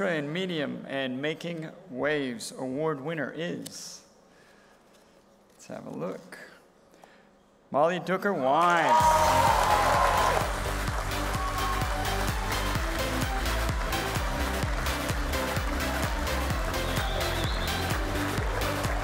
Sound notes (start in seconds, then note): 9.7 applause and music